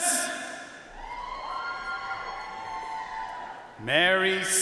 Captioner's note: audience cheering and applauding